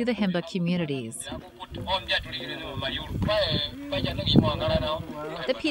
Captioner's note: sounds of audio Bible stories